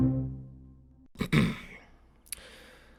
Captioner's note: clears throat